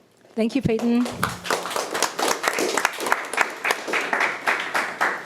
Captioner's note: audience applauding